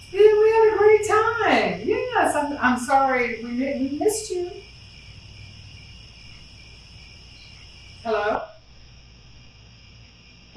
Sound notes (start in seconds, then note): 4.7 crickets; 8.9 crickets